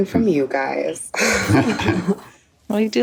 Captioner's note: chuckle